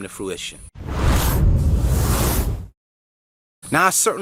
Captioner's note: electronic whooshing